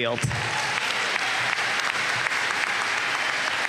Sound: applause

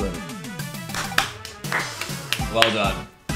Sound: hands clapping

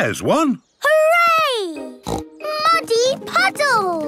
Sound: snorting

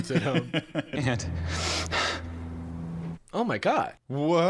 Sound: sniffling

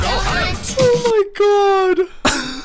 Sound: sobbing; still sobbing in regrets

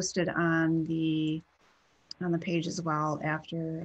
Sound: clicking

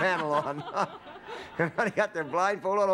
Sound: laughter

